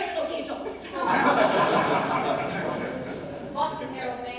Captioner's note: ensemble laughs